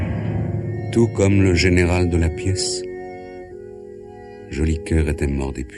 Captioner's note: voiceover